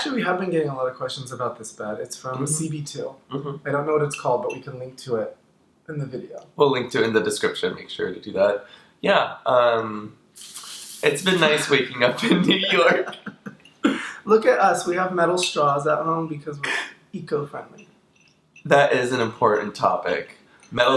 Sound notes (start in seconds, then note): 12.1 both laughing